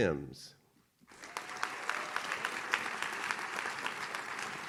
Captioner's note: audience claps